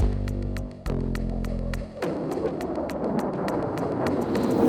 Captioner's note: airplane roaring; explosion